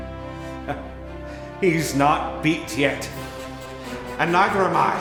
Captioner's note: laughing